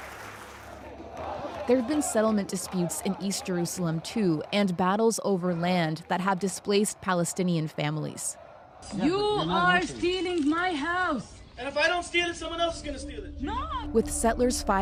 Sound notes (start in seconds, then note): 7.5 applause